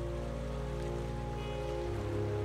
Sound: river running noise

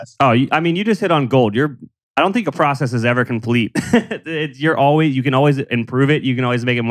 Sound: laughs

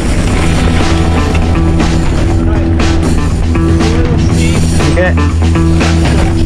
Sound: upbeat music; whirring

